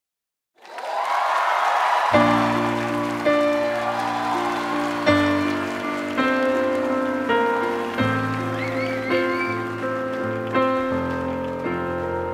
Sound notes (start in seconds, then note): 0.5 gritos, aplausos, piano; 0.6 gritos y aplausos